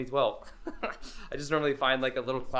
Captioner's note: laughing